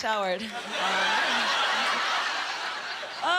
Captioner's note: laughing